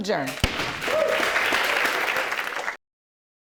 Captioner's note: audience applauding